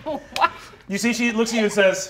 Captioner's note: laughing